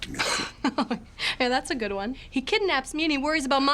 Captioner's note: laughs